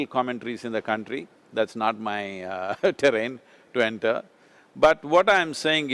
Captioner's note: laughs